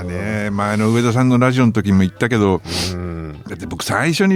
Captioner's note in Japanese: 鼻息